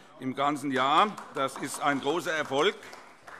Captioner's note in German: Vereinzelter Beifall